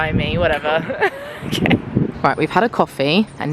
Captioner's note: laughs